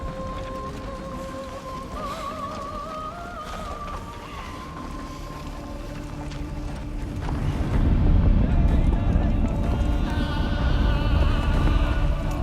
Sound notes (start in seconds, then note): 7.9 men shouting in arabic